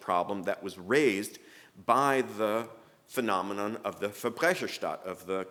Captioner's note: speaking german